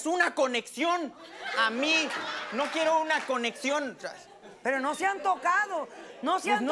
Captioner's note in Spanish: Risas